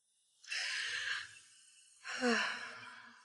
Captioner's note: sighing